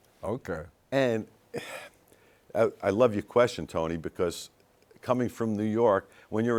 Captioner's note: sighs